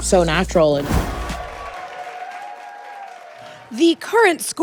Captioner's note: people cheering